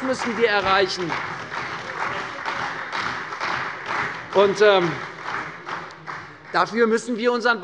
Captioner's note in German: Beifall bei der CDU und dem BÜNDNIS 90/DIE GRÜNEN